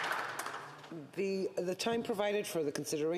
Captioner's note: applause